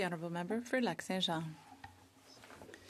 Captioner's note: speaking French